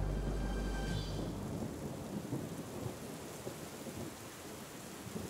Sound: rain trickling in distance

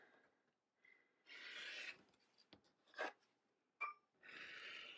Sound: slicing

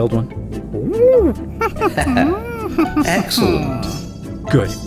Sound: ape noises

